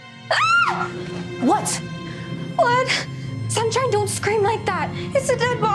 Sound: Lisa breathing heavily; suspenseful string music

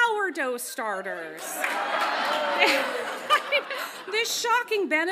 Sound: audience laughs

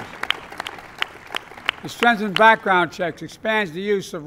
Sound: applause

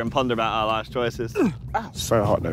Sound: Tobi groans

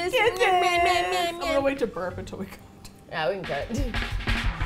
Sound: laughing

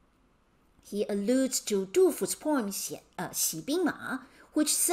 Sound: speaking in Mandarin

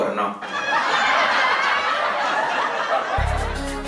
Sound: laugh track

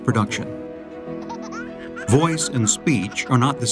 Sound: toddler laughing

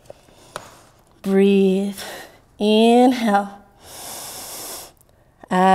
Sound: exhaling; inhaling

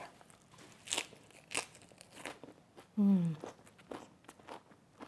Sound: lettuce crunching

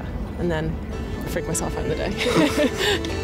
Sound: laughs

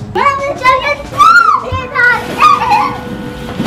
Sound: excited chatter

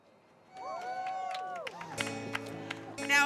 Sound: crowd cheers

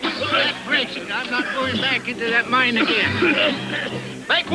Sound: coughing; coughing

